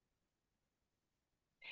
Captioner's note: pause